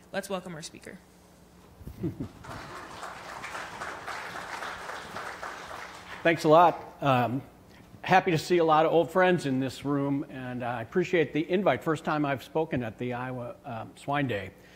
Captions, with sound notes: Let's welcome our speaker. (audience applauds) - Thanks a lot, happy to see a lotta old friends in this room, and I appreciate the invite. First time I've spoken at the Iowa Swine Day.